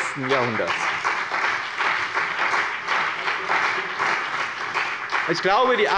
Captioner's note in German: Beifall bei dem BÜNDNIS 90/DIE GRÜNEN und der CDU